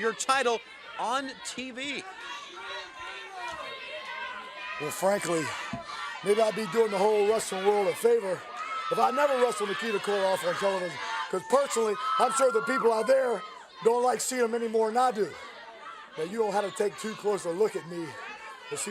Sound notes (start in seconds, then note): 2.1 crowd chatter